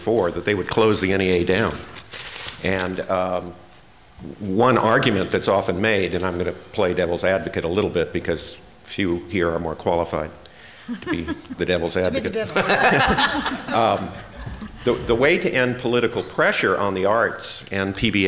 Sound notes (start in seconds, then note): 13.9 laughter